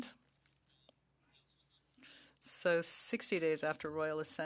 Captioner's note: speaking French